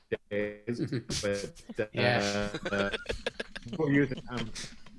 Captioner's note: everyone laughs